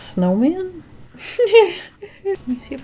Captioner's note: laughs